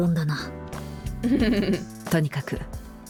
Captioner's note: chuckles